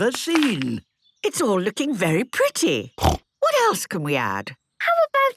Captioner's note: snorting